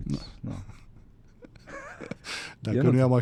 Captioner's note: laughter